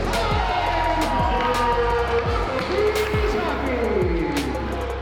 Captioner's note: spectators cheering; house music continues